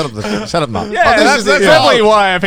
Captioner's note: conversing